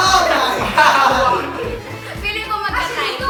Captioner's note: laughing